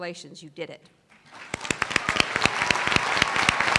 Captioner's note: applause